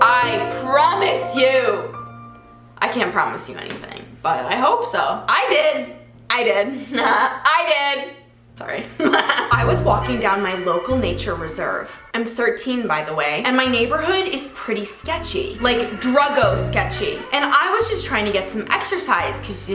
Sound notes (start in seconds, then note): 6.7 giggles; 8.9 giggles